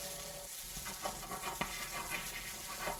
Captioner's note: writing